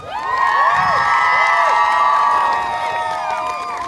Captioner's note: crowd cheering